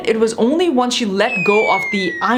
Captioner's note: label whistling